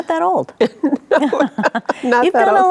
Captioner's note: both chuckling